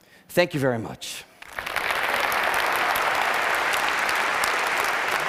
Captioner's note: applause